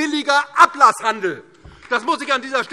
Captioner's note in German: Beifall DIE LINKE